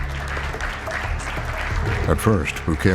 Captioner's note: applause